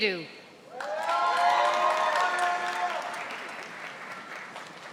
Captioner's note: audience applauding